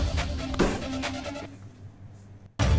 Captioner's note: Bangs on table